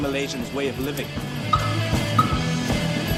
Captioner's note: car lock beeps